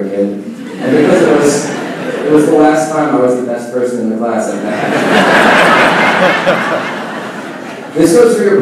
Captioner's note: laughing